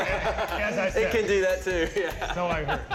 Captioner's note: all laugh